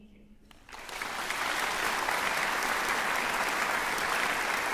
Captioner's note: applause